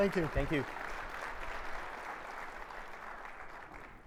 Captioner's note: audience applauding